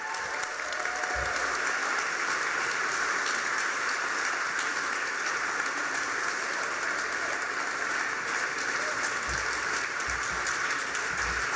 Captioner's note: applause, cheers